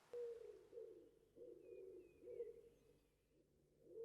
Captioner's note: owl hooting